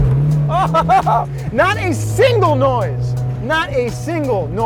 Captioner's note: laughing